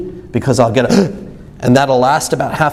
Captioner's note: gasps